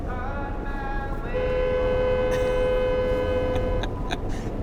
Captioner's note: horn honks; laughs